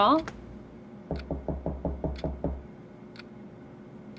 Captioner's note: door knocking